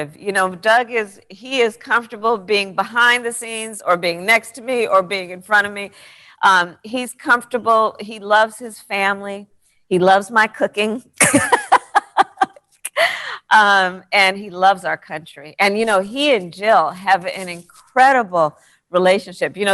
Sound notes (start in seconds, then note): 11.3 laughs